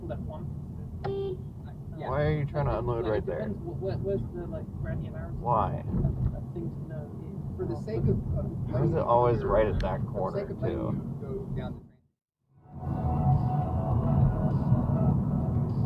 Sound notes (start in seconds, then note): 0.9 beep!